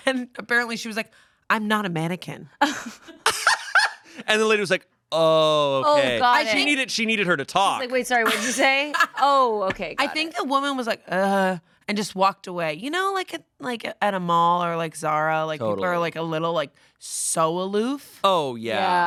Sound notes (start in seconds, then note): 2.7 laughs